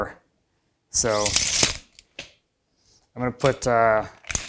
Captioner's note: tape measure snaps